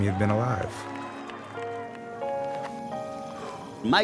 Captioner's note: audience cheering